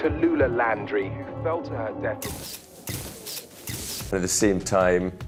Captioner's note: camera shuttering